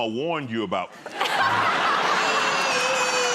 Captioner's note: laughter